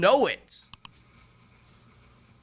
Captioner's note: mouse click